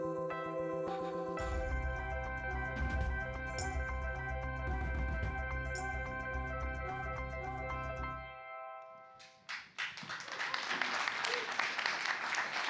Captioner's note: cheers and Applause